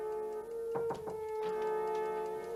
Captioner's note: knock at door